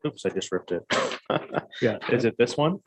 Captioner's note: laughs